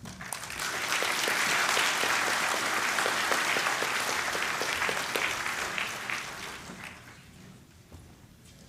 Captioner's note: applause